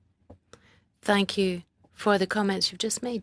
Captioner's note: speaking French